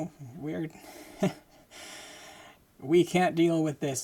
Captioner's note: laughing